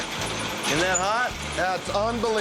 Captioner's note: horn beeping